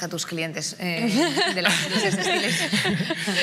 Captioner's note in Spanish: todos ríen